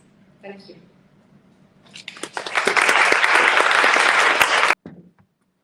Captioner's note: clapping